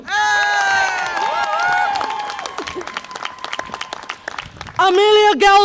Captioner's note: audience applause and cheer